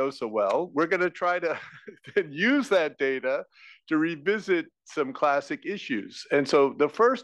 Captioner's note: laugh